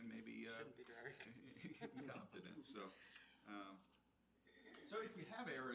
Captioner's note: laughs